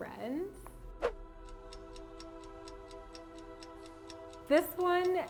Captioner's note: clock ticking